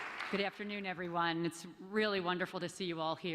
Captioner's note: applause